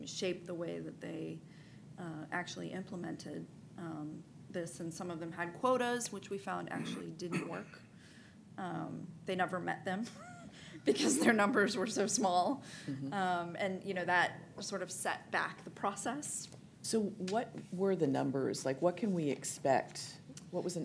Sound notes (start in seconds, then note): 10.1 chuckles